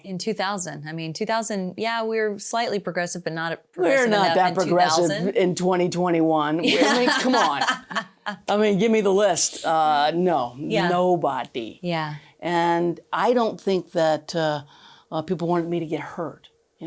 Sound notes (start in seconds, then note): 6.6 laughing